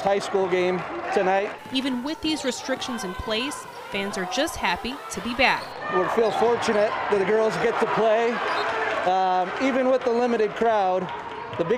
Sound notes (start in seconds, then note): 3.7 applause